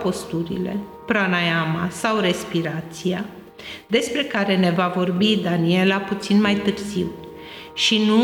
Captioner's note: or breathing